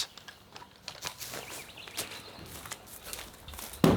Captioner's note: birdsong, footsteps; thud